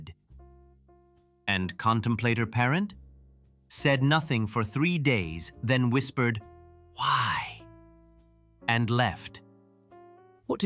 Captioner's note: whisper